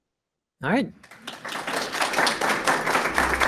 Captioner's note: applause